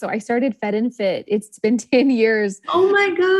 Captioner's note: laughs